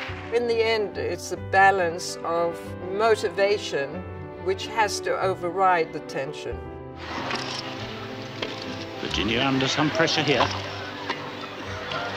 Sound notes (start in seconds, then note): 7.1 racket hitting ball